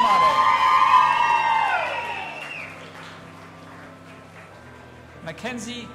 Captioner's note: audience applauding and cheering